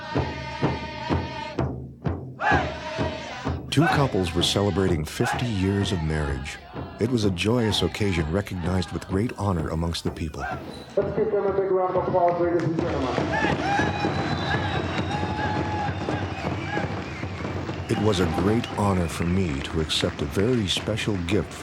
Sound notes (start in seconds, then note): 13.7 cheers and applause